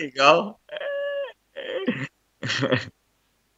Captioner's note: laugh